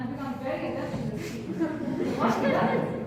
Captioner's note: audience laugh